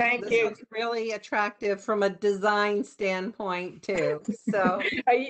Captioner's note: laughter